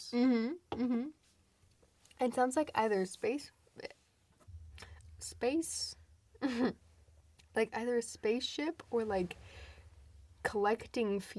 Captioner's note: stutters